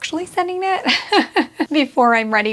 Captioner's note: laughs